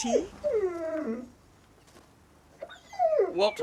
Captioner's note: whimpering